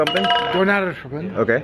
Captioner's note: clattering